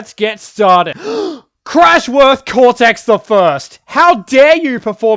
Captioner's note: gasp